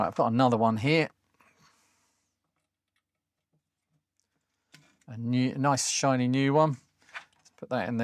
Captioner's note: silence